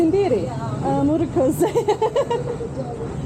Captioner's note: laughing